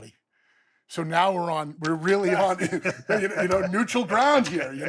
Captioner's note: Stone Cold laughs